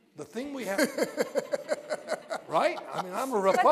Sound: laughter

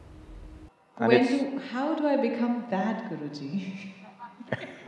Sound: both laugh

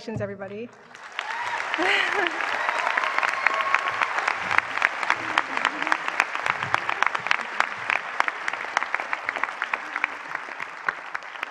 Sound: applause

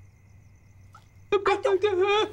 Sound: babbling

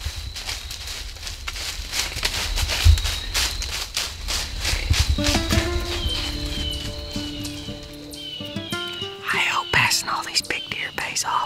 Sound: whispering

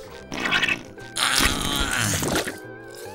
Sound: grunting

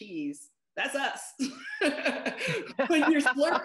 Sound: laughter

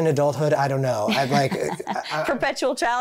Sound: chuckling

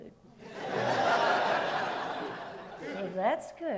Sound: audience laughs

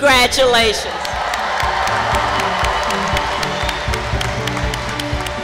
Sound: crowd applause

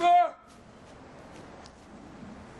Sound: silence

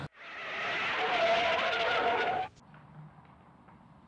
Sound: tires screeching

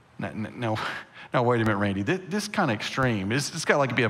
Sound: scoffs

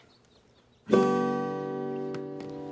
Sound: birds chirping; guitar ringing

